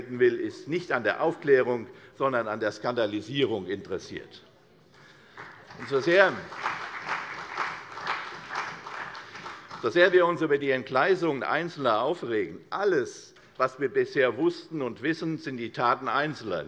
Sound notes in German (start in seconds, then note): 5.2 Beifall